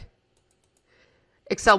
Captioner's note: mouse clicking